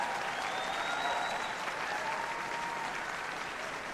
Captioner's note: applause